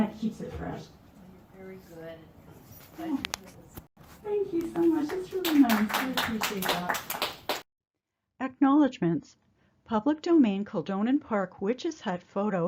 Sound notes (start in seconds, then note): 4.6 applause